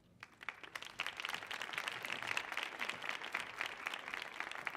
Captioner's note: audience applauding